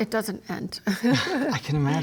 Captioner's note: laughter